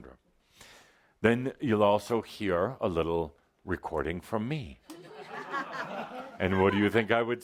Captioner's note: laughter